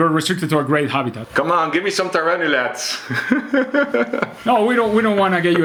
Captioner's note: chuckles